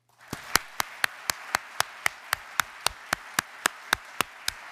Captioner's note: audience applauds